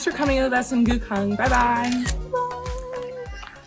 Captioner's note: camera Shutter